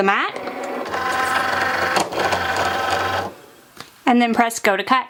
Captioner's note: Cricut humming